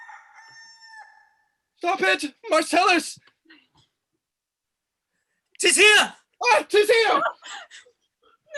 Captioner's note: the cock crows